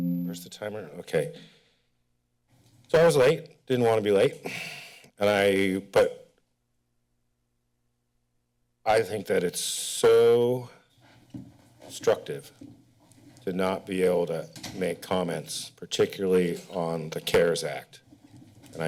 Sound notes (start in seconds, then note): 1.9 pause; 4.5 sighs